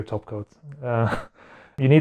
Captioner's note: chuckle